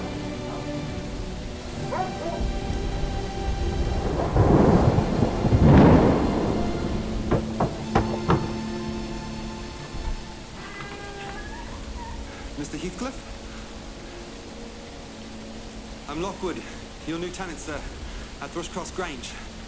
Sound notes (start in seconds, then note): 1.8 dog barking; 4.5 storm raging